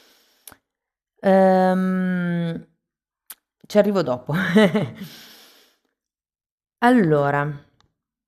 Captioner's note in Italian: risate